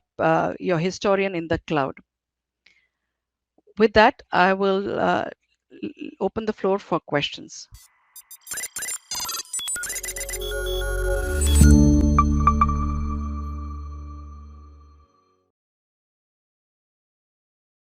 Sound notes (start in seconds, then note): 8.1 tech whirring; 11.7 soft music